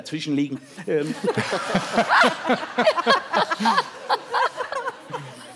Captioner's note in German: Lachen